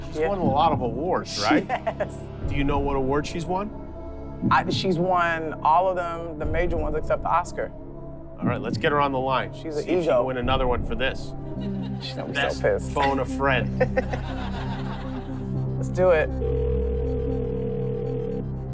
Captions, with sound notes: She's won a lot of awards, right? [ Laughing ] She has. Do you know what awards she's won? She's won all of them, the major ones, except the Oscar. Alright, let's get her on the line. She's an EGO. See if she can win another one for this. She's gonna be so pissed. Best Phone-a-Friend. [ Laughter ] Let's do it. [ Line ringing ]